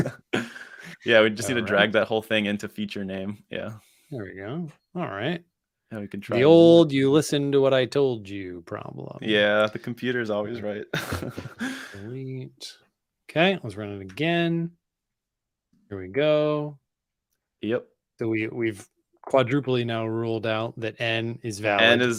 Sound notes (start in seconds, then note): 10.6 laughs